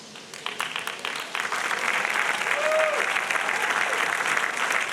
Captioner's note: audience applauding